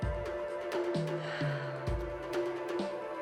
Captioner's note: sighs